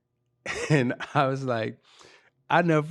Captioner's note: laughing